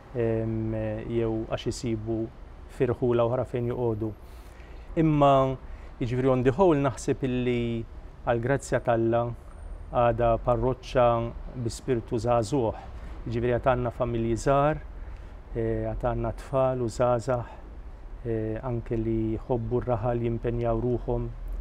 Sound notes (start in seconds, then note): none